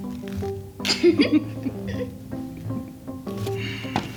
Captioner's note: both laugh; soft music